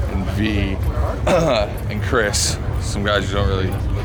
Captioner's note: clearing throat